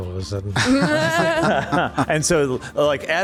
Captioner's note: laughter